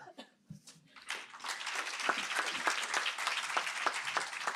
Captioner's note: applause